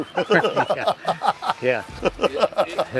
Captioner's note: laughter